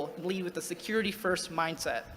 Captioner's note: none